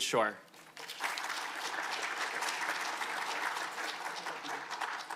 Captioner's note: audience applauding